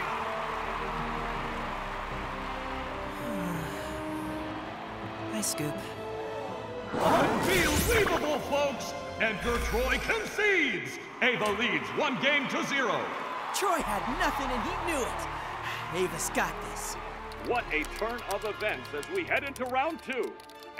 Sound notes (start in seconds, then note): 0.0 audience cheering; 3.1 sighs